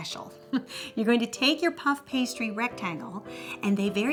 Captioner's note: laughs